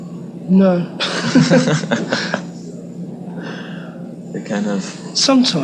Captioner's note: both laughing